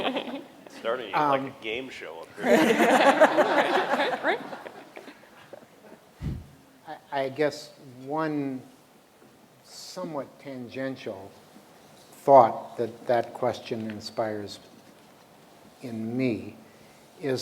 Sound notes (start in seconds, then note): 2.4 laughter